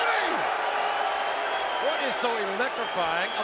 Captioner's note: crowd cheering